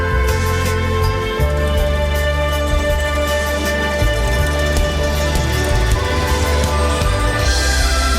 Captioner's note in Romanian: Aplauze